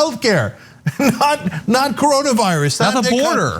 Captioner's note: laugh